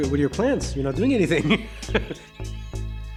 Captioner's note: laugh